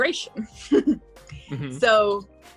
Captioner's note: chuckles